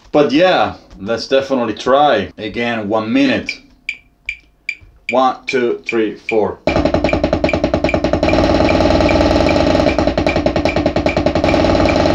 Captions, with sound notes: But yeah, let's definitely try again in one minute. (metronome beating) One, two, three, four. (drum beating) (metronome continues ticking)